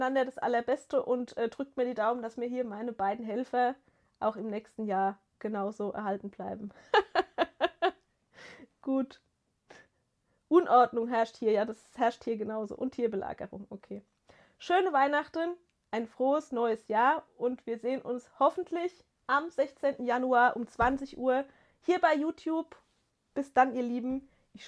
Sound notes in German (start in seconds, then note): 6.8 gelächter